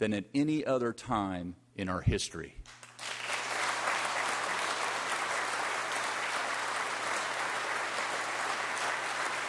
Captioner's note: applause